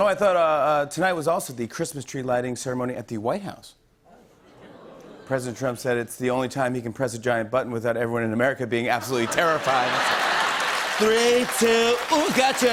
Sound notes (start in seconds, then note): 9.0 laughter and applause